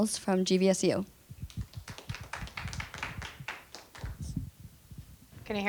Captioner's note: applause